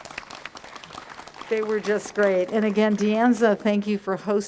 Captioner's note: applause